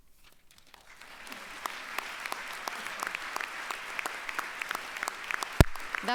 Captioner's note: applause